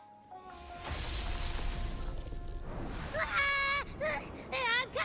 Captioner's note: screams